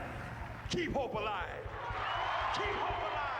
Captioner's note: crowd cheering